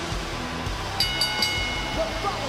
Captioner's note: bell rings